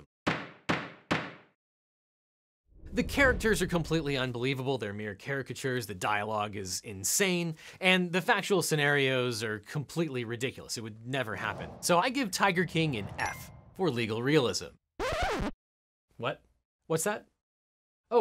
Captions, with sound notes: (gavel banging) (air whooshes) The characters are completely unbelievable, they're mere caricatures, the dialogue is insane and the factual scenarios are completely ridiculous. It would never happen. (air whooshes) So I give "Tiger King" an F for legal realism. (record scratches) What? What's that?